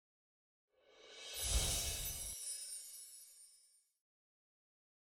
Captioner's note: air whooshes